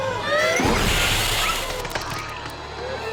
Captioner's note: splat!